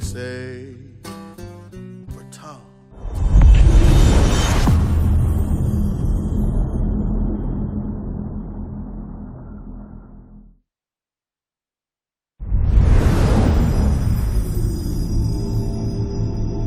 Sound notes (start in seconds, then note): 3.0 dramatic sound